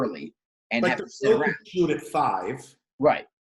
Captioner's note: murmurs